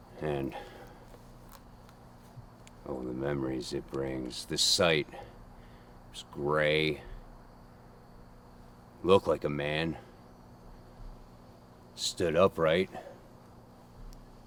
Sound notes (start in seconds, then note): none